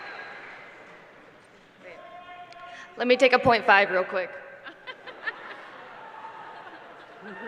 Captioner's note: applause